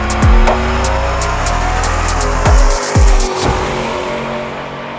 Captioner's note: car engine revving